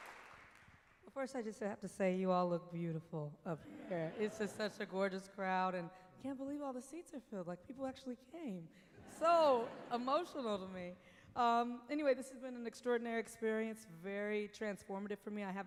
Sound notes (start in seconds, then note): 3.6 laughter; 8.9 laughter